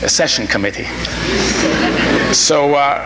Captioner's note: audience laughing